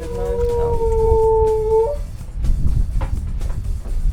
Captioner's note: howling